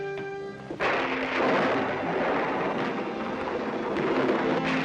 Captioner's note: multiple thunderclaps